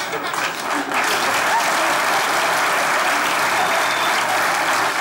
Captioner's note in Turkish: Alkış sesleri